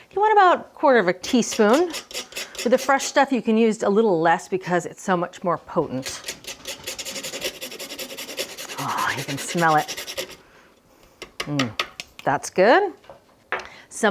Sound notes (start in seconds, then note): 1.3 grater whooshing; 6.0 grater whooshing; 11.6 grater clicking